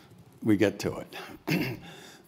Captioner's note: cough